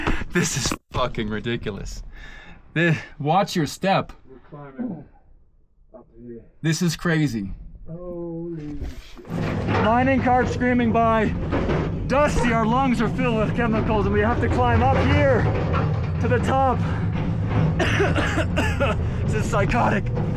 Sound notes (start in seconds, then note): 0.0 laughs; 11.3 cart rattling; 17.7 coughs